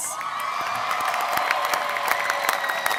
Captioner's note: applause